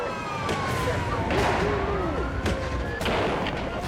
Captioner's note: guns fire